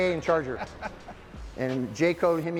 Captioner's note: laughing